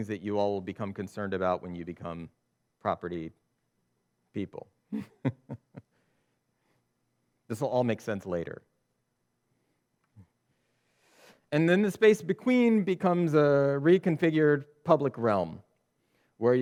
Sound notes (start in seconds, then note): 4.9 chuckles